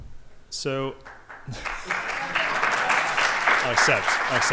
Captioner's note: applause